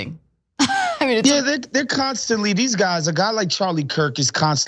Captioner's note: laugh